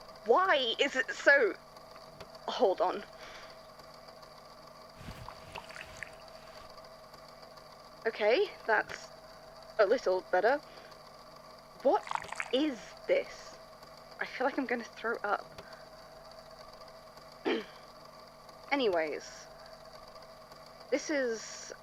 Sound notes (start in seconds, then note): 17.4 clears throat